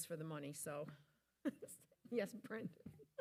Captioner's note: laughing